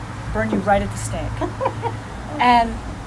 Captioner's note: laughing